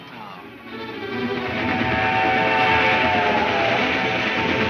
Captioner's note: train horn blares